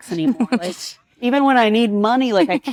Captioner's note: participant laughs